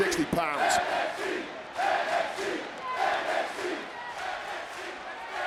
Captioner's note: crowd chants "NXT"